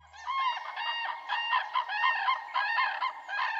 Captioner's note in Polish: Odgłosy żurawi